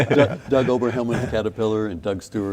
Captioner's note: laughing